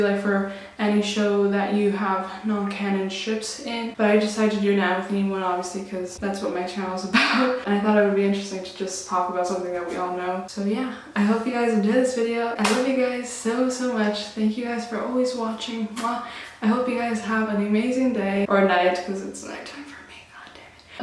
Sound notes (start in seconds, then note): 7.1 laughs